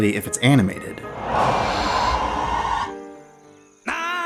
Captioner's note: wailing Sound Effect